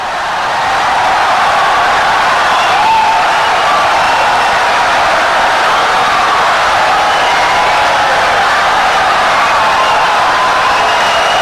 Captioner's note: wild applause and cheering for 17 seconds